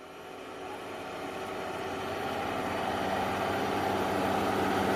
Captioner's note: distant bulldozer machine at work